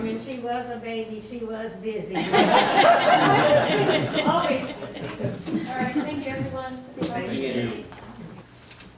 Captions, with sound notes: - And she was a baby, she was busy. (all laughing) Always busy. - All right, thank you, everyone. - Same to you.